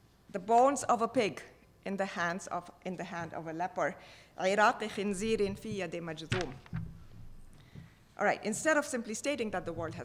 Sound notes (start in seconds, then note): 4.4 speaking foreign language